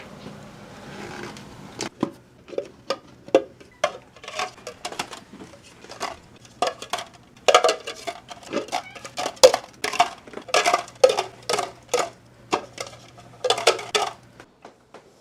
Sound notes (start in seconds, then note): 1.9 soft clattering